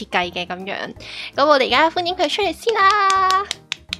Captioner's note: applause